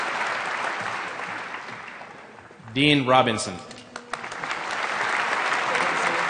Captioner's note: applause; applause